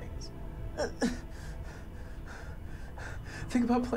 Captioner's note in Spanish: Respirando profundamente